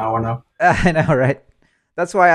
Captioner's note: laughing